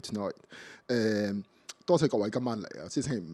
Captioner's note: Cantonese